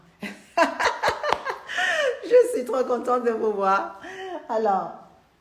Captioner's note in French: Rires